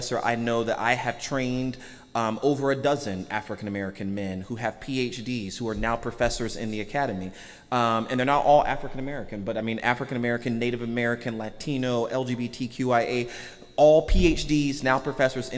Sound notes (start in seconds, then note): none